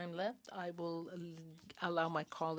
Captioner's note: speaking French